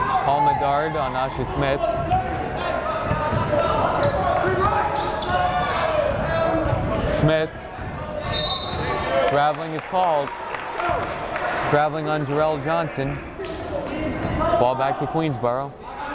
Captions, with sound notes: Paul Medard on Nasha Smith. (yelling) Smith. (whistle blowing) Traveling is called, traveling on Jarel Johnson. Fallback to Queensborough.